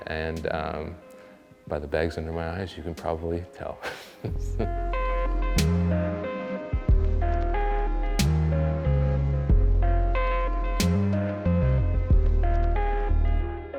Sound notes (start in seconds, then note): 3.8 laughs; 5.4 funky instrumental music